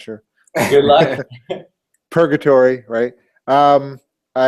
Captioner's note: laugh